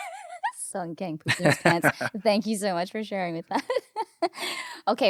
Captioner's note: laughing